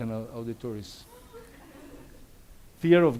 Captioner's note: audience laughs